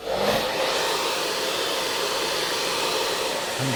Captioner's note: hair dryer blowing